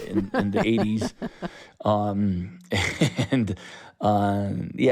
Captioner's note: laughter